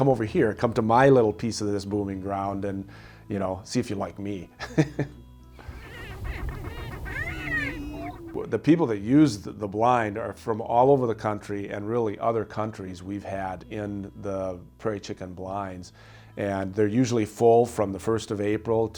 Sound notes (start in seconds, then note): 5.6 laughs; 5.6 whooping & cackling